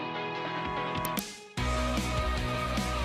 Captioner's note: vibrant music; mouse click; vibrant music